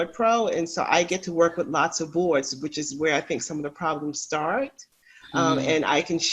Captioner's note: makes affirmative sound